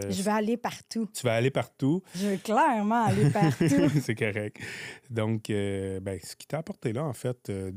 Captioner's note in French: rires